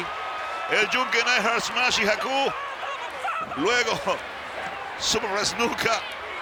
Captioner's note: laugh